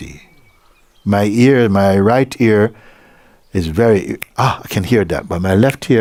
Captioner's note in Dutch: vingerknip